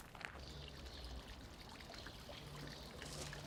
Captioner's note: running water